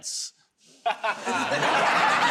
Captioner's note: laughs; laughter